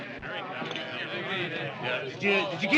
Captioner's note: chattering